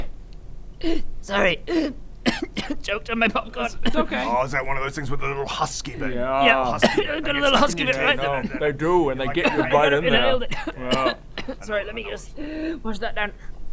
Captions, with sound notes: *gasp* sorry *gasp* *cough cough* choked on my popcorn It's okay Ah is that one of things with the little husky bit? Yeahhh - got a little husky bit right in the - they get stuck in your teeth and then they They do and they get you right in there I kinda inhaled it yeah - sorry let me just - I know, I know what it's like wash that down